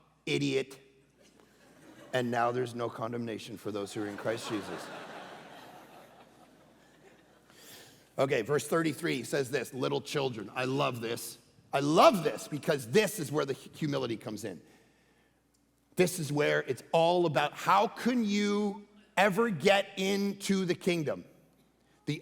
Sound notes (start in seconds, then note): 4.0 congregation laughing